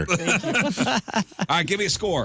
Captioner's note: laughing